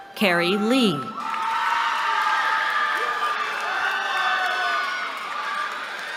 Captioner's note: cheering